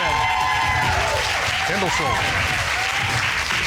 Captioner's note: audience cheers